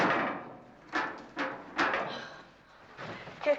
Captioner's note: sighing